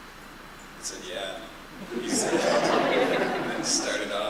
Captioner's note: laughter